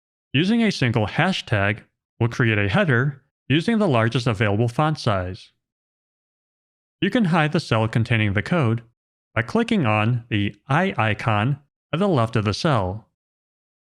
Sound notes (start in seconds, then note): none